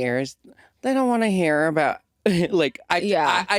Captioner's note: chuckles